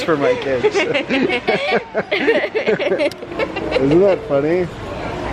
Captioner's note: laughing